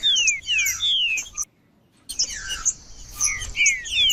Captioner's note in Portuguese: trinca ferro cantando